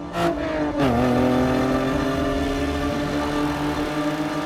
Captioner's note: car rushes